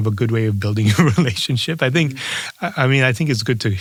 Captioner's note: laugh